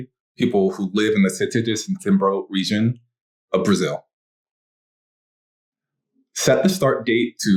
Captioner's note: non-english speech; non-english speech